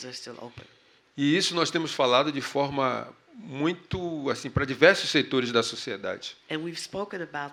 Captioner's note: speaking portuguese